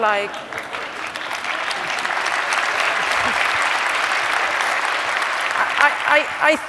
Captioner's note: applause